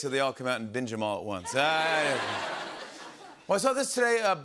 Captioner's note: laughter